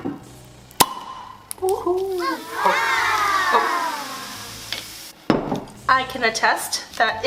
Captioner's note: pop